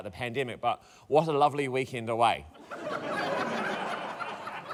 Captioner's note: laughter